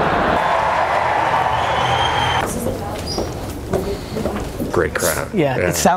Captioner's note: crowd cheering